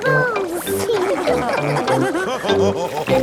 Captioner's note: all laughing